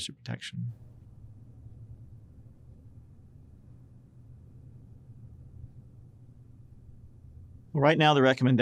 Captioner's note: silence